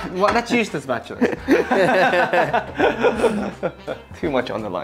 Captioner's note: laughter